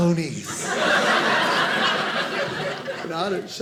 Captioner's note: audience laughing